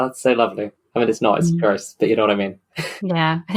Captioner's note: laughs